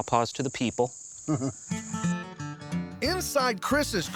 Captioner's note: chuckles